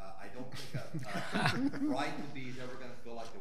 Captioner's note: all laughing